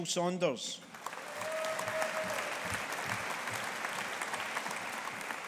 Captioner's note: audience applauding